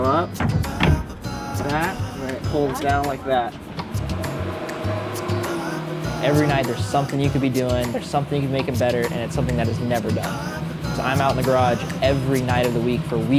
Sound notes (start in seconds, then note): 4.5 engine revs; 4.5 man vocalizing